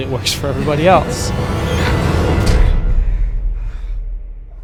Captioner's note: heavy breathing